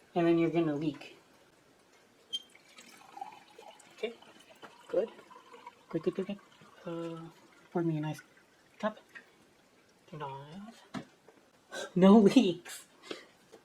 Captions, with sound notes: And then you're gonna leak. (Squeak, and pouring water) Okay. Good. Good, good, good, good. Ahhh... pour me a nice... cup. Nah... No leaks!